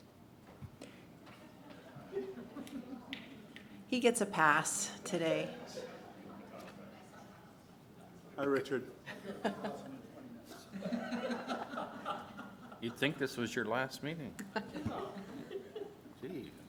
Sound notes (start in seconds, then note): 10.5 laughter